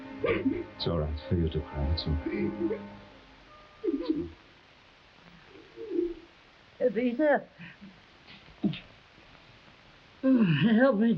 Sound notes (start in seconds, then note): 0.2 Esteban sobbing; 5.3 Esteban crying; 8.6 groans